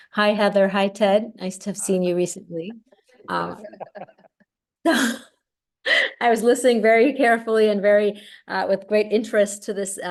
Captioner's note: laughter